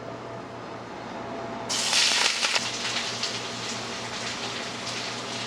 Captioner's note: pan sizzles